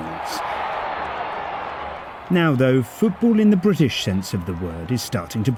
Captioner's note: crowd cheering